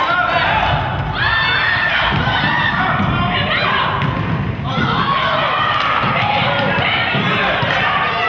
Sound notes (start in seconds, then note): 1.6 crowd exclaims